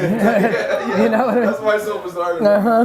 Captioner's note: laughing